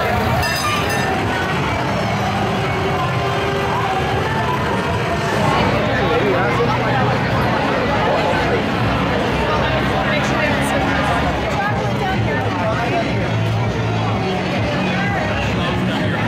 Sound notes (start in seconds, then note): none